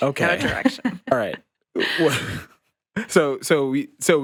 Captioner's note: chuckles